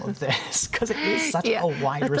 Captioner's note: laughter